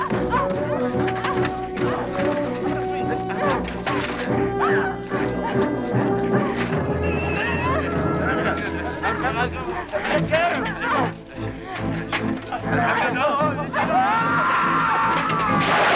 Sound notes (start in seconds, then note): 0.0 armor clattering; 0.1 Hundra grunting; 8.4 guards clamoring; 13.6 guards screaming